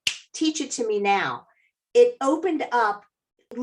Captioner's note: fingers snap